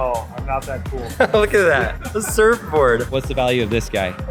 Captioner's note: chuckling